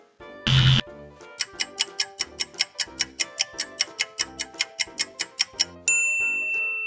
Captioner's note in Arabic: صوت طنين; صوت ساعة